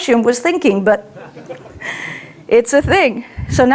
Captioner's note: audience laughs